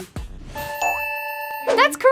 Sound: dinging

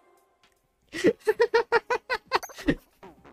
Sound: more laughter!

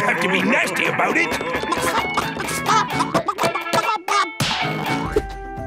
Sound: clucking

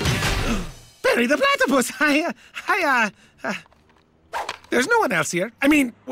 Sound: gasp

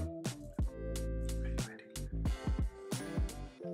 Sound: whispers

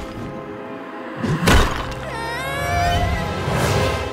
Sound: cry of fear

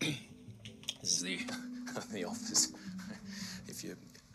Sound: laughing nervously

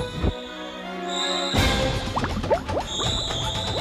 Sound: shrieking in distance

